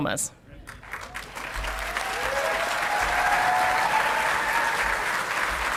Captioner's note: audience clapping and cheering